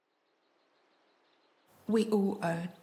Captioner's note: birds chirping